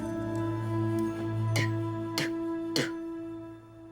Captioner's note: spits lightly